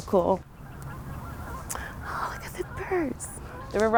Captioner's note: geese honking